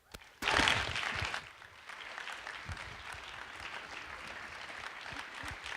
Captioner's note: audience applause